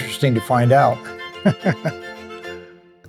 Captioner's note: laughs